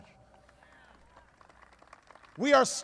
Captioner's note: applause